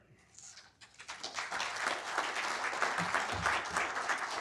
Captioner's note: audience applauding